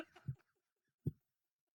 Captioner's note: laughing